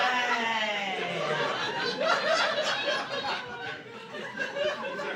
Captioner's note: laughter